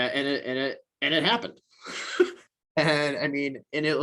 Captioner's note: chuckles